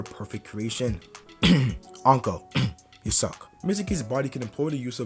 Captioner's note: cough